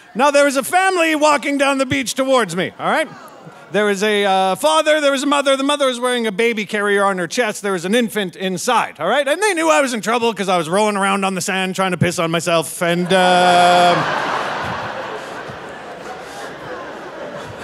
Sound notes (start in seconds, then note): 12.9 audience laughing